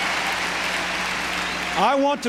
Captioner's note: applause